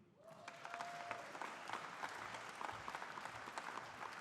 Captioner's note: audience applauding